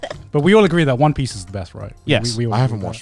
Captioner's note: laughs